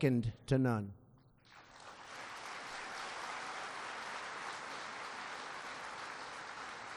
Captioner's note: applause